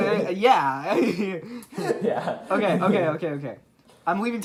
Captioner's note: laughing